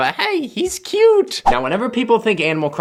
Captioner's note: whoosh